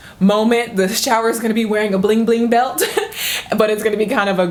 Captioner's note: laughs